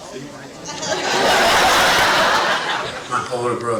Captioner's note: laughter